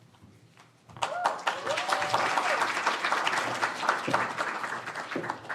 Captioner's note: audience applauds